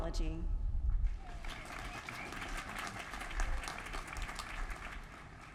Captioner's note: applause